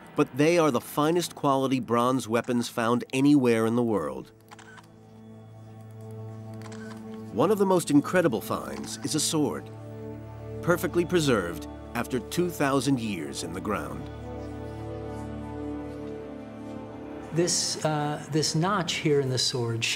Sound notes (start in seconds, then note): 4.5 camera whirring